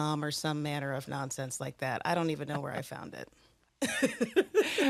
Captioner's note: laughs